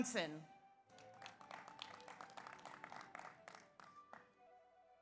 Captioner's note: audience applauds